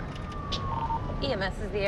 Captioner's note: beeping